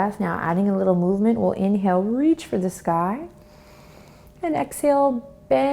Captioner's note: inhales